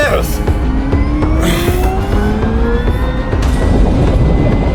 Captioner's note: sub whirring